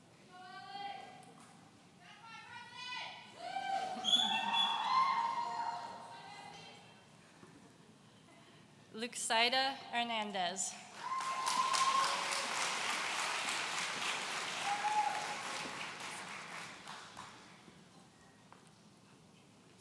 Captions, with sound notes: Luxaida Hernandez. (audience cheering)